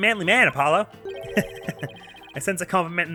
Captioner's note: laughs